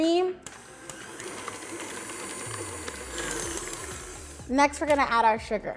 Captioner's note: machine whirring